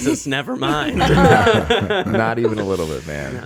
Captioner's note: laughing